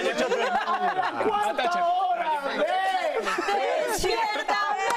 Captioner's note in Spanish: risas